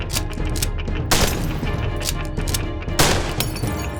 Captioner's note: cocks rifle; glass shatters; gunshot; cocks rifle; glass shatters; gunshot; glass shatters